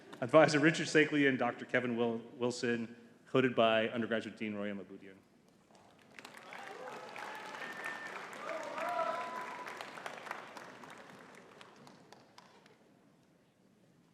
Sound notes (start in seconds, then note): 6.0 audience cheering and clapping